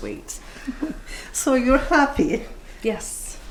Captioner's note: giggles